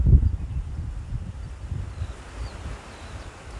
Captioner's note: sounds of nature